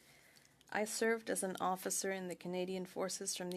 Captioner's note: speaking French